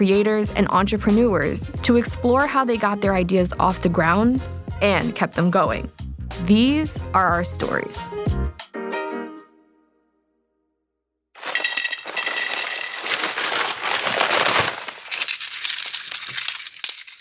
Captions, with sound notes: So I'm sitting down with creators and entrepreneurs to explore how they got their ideas off the ground and kept them going. These are our stories. (wine glass clanking)